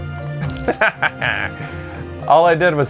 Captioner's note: laughs sinisterly